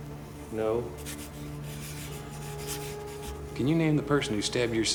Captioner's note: pen scratches